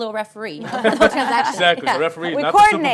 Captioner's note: laughing